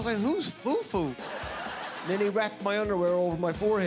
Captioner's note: audience laughing